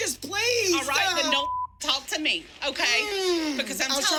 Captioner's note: beep